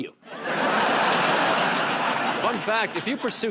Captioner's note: laughter